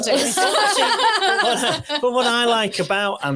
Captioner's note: audience laughs